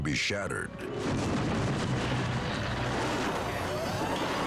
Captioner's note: parachute rustling